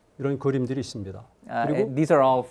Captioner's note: speaking in Korean